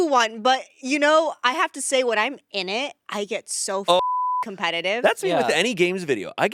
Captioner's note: beep